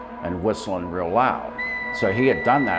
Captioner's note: loud whistling